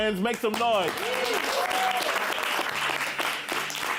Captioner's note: applause